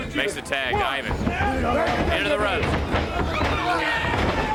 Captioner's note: crowd chatter